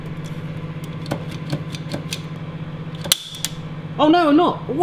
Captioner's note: clicking sound